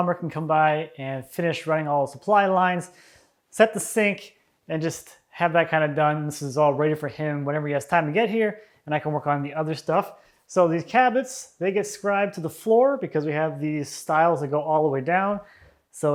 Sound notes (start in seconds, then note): none